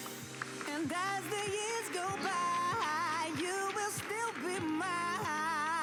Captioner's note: applause